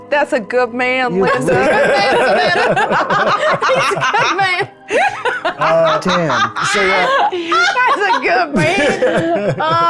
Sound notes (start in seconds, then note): 1.4 chuckling; 4.9 chuckling